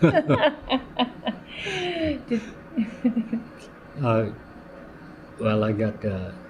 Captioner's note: laughter